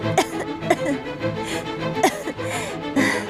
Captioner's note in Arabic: سعال